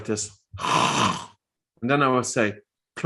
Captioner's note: snores